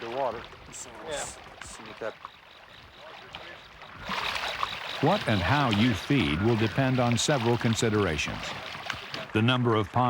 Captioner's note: voiceover